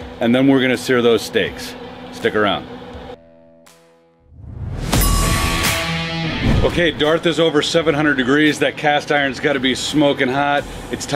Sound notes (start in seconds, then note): 4.8 upbeat music; 5.0 timer chiming